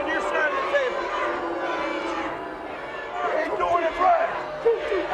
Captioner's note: audience chants